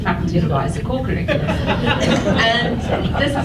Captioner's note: audience laughs